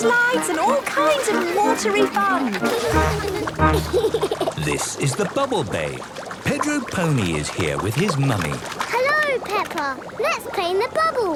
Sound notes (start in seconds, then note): 3.1 giggles